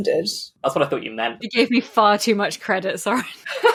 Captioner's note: laughing